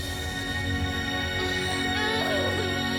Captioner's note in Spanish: Sollozos